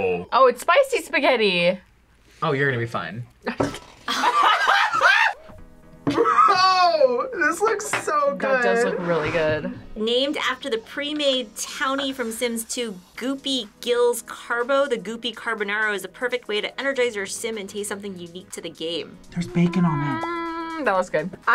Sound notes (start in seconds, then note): 4.1 laughs